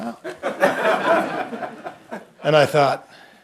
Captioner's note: laughter